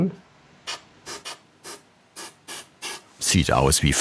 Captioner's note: short bursts of spray